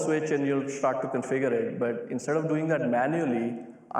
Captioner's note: none